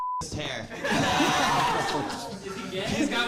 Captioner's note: audience laughing